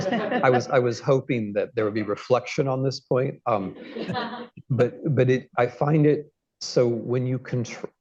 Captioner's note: laughter; laughter